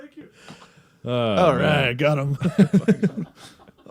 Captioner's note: laughs again